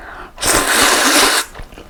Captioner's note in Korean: 후루루룩